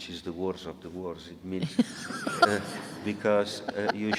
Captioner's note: audience laughing